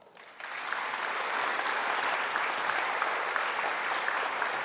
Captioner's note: audience applauding